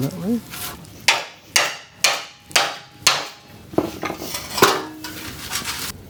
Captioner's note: hammer tapping